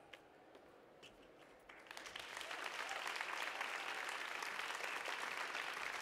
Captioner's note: audience applauding